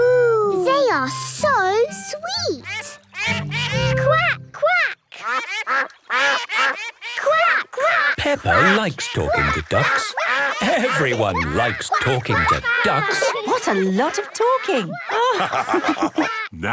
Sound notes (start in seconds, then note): 2.6 all laugh; 5.3 quacking; 15.3 all laugh